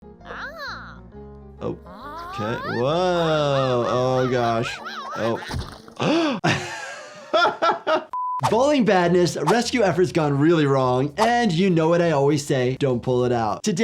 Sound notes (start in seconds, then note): 1.6 upbeat music; 4.7 anteater yelling; 5.9 doctor gasping; 7.2 doctor laughing